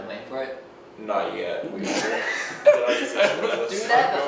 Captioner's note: laughing